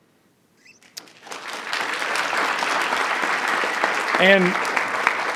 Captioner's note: audience clapping